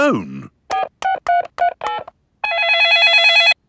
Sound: dialing; cell phone ringing

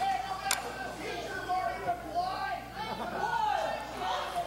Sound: faint shouts from crowd

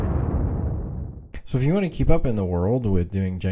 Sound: voiceover

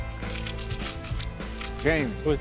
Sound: rattle

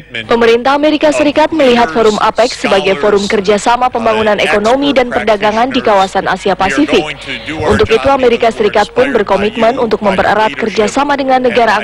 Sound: non-english speech

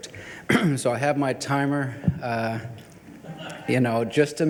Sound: people laugh

